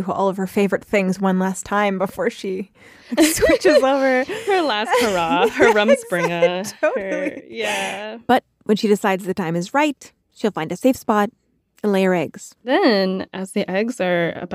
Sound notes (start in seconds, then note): 3.1 laughs